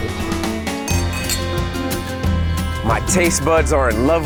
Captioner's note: clinking